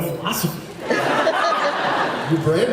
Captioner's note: laughs